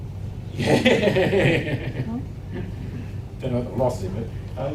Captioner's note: laughs